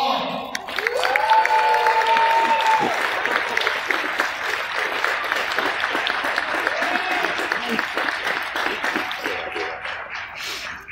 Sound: cheers and applause from crowd

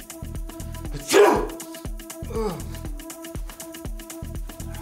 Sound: man sneezes

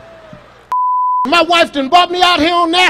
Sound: beep

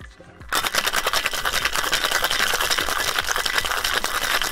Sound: shaking mixer

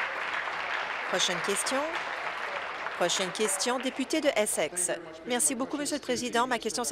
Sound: applause

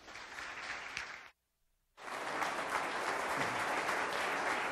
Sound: audience applause

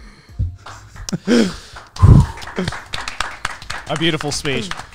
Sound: all clapping

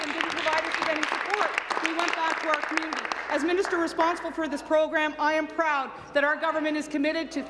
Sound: applause

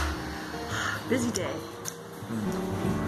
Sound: sigh

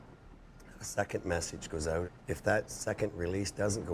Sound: voiceover

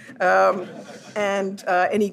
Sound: audience laughs

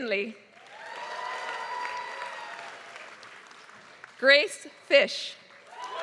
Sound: applause

